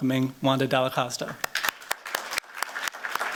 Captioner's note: applause